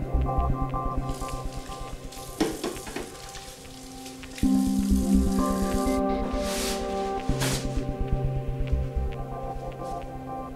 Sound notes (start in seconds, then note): 1.0 water running; 5.8 water stops